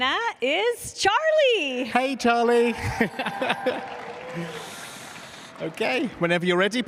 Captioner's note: applause